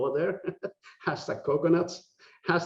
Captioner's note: laughing